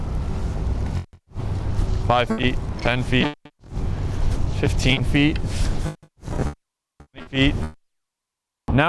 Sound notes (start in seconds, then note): 2.2 audio pops; 6.3 audio distorts